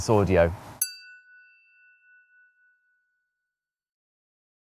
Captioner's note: chiming tone